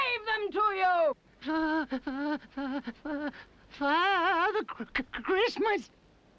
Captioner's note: stammering